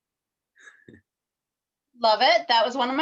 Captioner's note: laughs